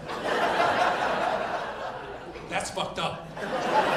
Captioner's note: audience laughing